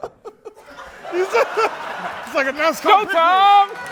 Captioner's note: laughter; applause